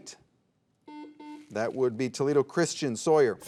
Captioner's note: soft beeping